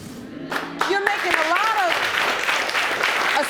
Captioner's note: audience agreeing